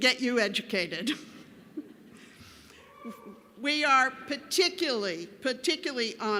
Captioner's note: laughter